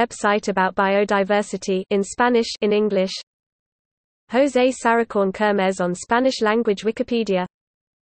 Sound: in Spanish

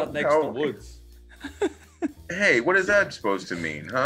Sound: laugh

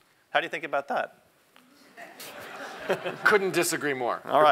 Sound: laugh

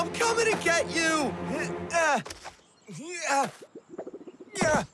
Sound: grunting efforts

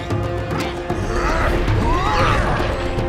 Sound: grunting

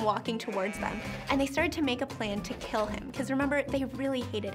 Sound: sheep baaing

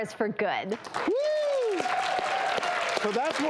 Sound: audience Clapping

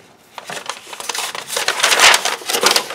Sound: paper crinkling

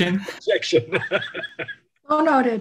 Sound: laughs

